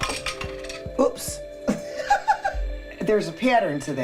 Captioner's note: laughs